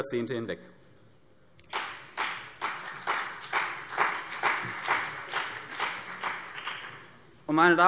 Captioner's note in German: Beifall CDU und BÜNDNIS 90/DIE GRÜNEN